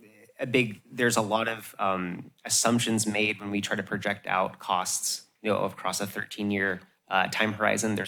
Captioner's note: none